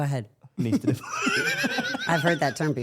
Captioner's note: laughs